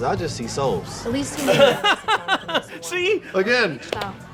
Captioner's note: laughs